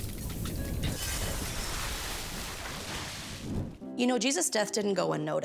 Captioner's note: glass exploding